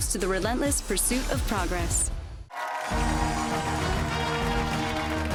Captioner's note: cheers and applause